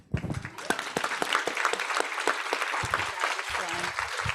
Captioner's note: audience applauds